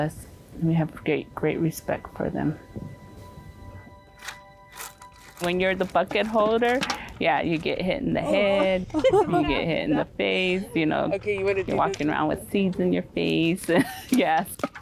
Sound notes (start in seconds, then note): 4.8 stick scratching